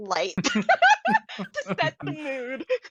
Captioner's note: laughing